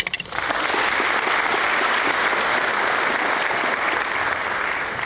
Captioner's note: applause